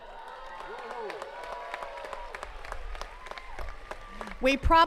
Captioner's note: attendees cheering and clapping